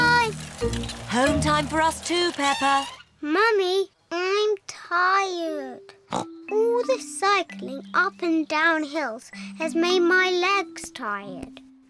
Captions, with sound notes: -Bye! -Home time for us, too, Peppa. Mummy, I'm tired. (SNORTS) All this cycling up and down hills has made my legs tired.